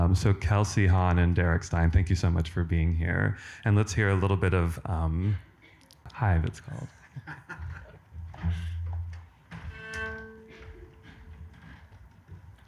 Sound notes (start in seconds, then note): 7.0 laughs; 9.4 tunes cello